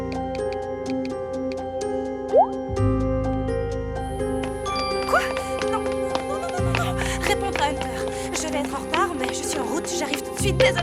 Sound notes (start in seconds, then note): 4.3 phone chimes